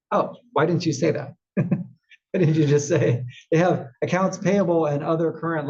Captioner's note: laugh